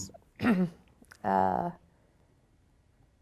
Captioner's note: clearing throat